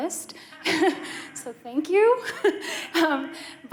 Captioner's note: laughter